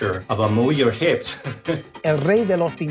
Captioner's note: laughing